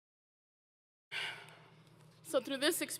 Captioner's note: exhales Audibly